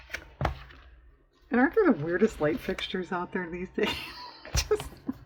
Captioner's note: laughs